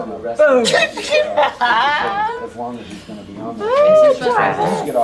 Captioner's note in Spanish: Risas